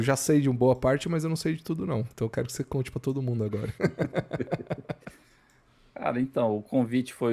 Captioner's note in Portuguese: risadas